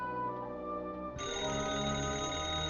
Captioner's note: telephone